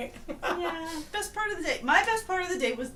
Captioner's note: laughts